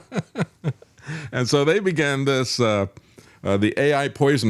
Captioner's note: laughs